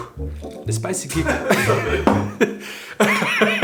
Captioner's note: laughing